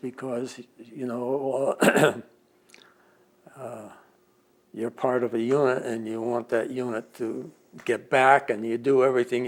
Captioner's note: clears throat